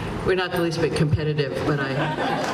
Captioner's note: laughter